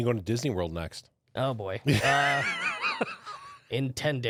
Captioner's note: laughs